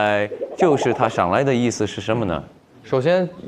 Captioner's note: accent slips